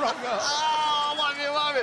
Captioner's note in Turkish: Gülme sesi